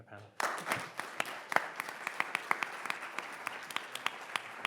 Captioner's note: audience applauding